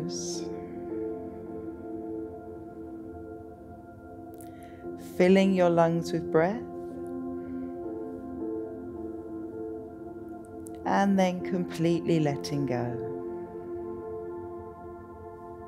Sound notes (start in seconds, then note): 0.6 exhales